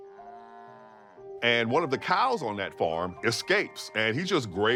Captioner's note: cow moos